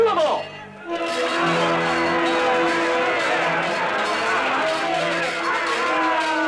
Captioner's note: yelling, steel clanging; dramatic music